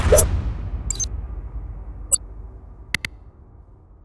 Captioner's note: intense drum music; icon beeping